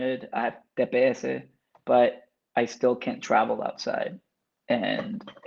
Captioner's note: speaks Spanish